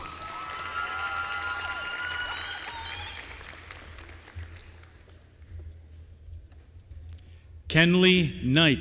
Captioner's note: applause